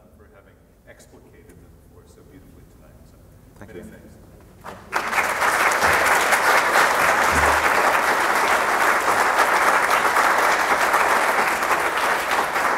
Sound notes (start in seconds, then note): 4.8 applause